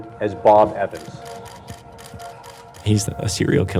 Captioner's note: camera shutters clicking continuously